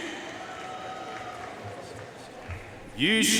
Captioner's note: audience cheering and applauding